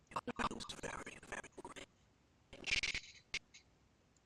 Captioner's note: audio skipping